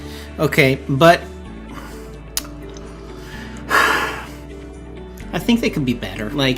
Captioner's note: sighs